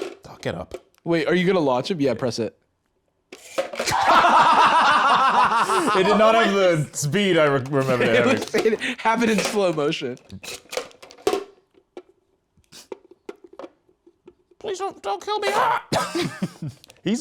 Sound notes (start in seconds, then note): 3.8 both laughing; 15.4 laughs